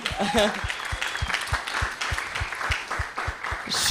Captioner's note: cheering applause